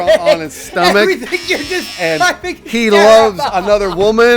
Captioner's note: dying of laughter